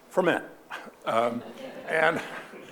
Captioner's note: audience laughing